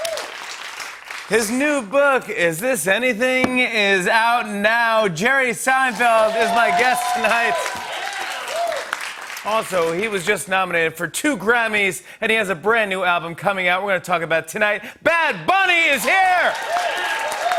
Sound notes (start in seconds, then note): 5.8 cheers and applause; 15.8 cheers and applause